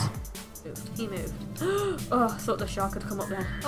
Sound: gasps

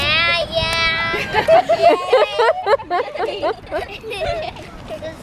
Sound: all laughing

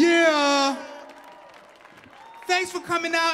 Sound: cheering and clapping continues

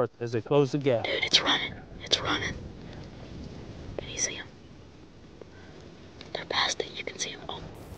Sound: whispering

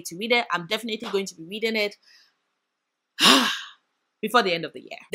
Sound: sigh

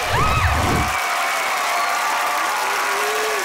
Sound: cheering, applauding

